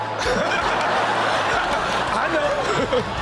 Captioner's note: audience laughs